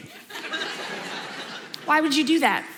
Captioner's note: audience laughs